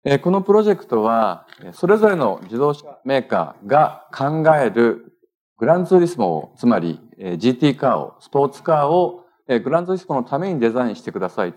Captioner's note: speaking japanese